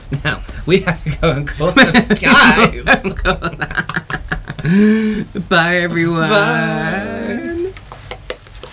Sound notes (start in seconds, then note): 3.3 nervous Laughter